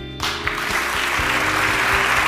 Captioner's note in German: Applaus